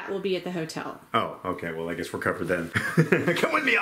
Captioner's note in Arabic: يضحك